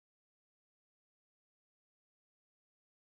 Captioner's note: none